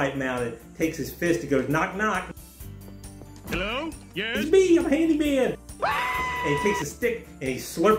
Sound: screaming

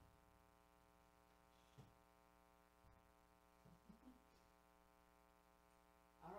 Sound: chuckles as she reads chat

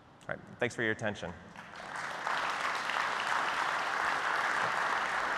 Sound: applause

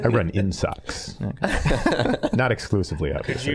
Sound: all laughing

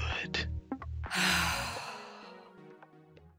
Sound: sighs

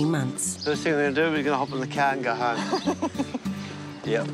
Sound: laughs

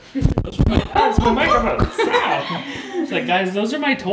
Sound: microphone rustling

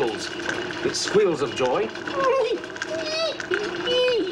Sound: squeals

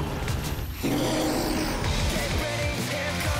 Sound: monster roars

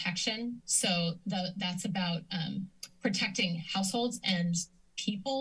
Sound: clicks tongue

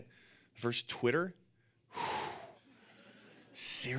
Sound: exhales disbelievingly; audience laughing

